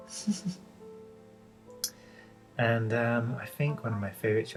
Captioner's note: laughs